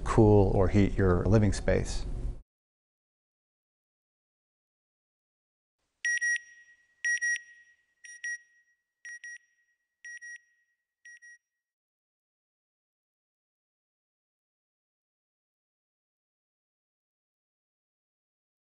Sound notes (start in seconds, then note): 4.3 beeping